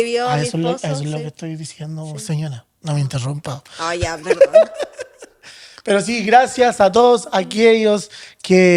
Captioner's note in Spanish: risas